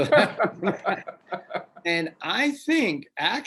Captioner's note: laughs